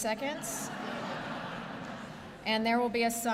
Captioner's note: laughter